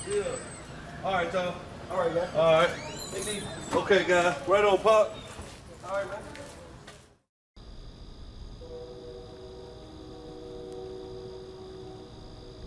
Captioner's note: train